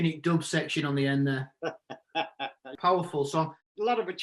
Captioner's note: laughs